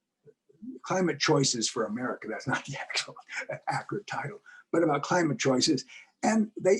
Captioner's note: laugh